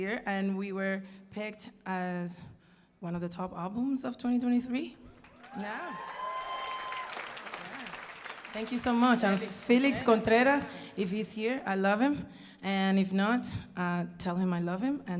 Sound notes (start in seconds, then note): 5.2 audience cheering and applauding